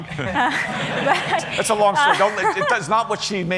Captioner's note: laughter